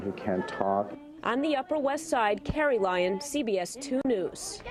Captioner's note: voiceover